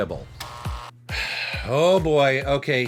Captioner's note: sighs